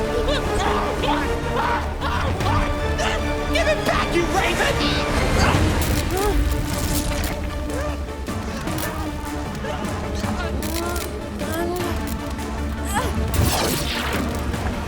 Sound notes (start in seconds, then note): 0.1 screaming; 5.6 crackling continues; 5.6 grunting; 8.4 Charlie groaning